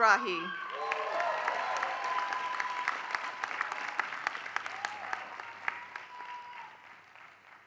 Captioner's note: applause